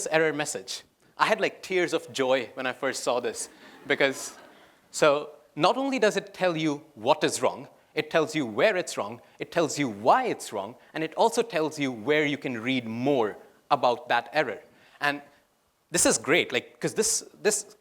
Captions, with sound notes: error message. I had tears of joy when I first saw this. (laughter) Not only does it tell you what is wrong, tells you where, why, and where you can read more about that error. This is great because this